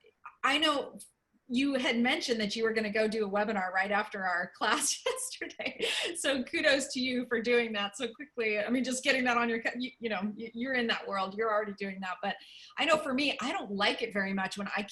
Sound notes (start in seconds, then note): 5.0 laughter